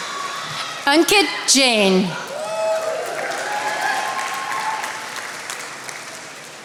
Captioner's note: attendees applauding